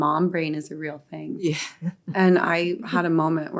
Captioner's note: chuckles